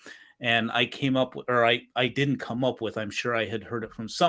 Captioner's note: abbreviated speech